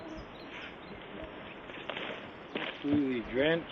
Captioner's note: foot steps